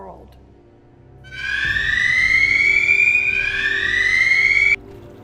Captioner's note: tremor alert